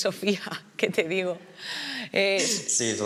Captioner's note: she laughs